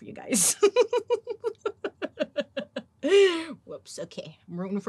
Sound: laughs

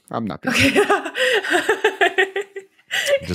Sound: laughs

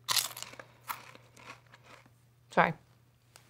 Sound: crunching

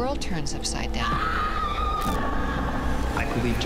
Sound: screaming

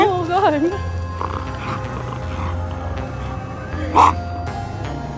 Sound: snorting noises

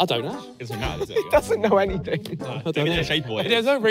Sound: laughing

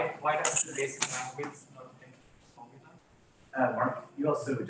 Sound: participant speaks faintly

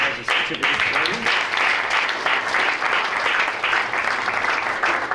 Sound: applause

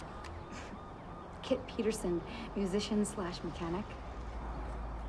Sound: scoffs

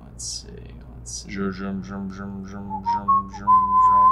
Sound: makes zooming noises; whistles

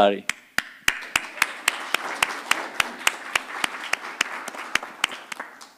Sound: audience and panelists applaud

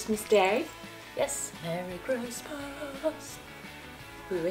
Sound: sing-song voice

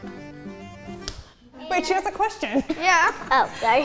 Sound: hands slap

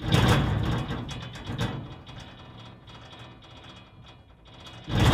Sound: mechanical sounds

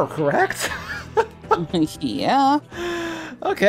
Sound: laughs

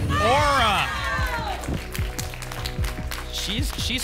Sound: applause and cheering

